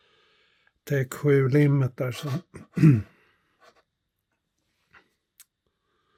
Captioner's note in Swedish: harklar sig